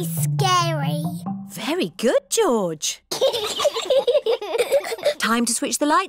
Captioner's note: both giggle